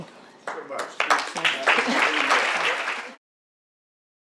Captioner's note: audience applauding